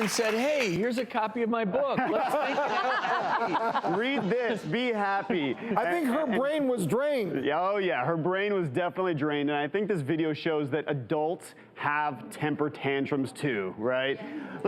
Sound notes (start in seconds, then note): 1.8 laughter